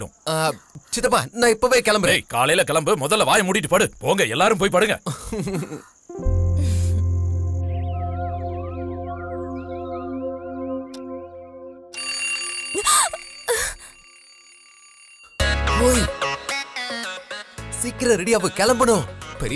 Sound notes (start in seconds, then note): 12.0 alarm ringing; 12.0 gasps